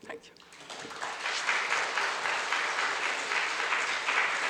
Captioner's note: audience applauds